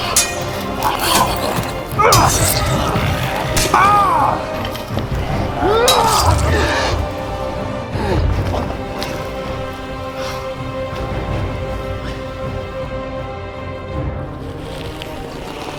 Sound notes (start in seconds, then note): 0.0 weapons clanging; 0.2 grunting; 3.6 groaning; 5.8 grunting